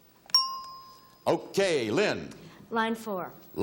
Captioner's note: bell chimes